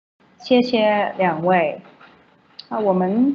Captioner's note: Mandarin